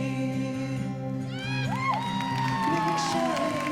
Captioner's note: singing; cheering and applause